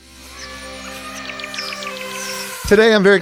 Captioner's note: birds chirping; elephant trumpeting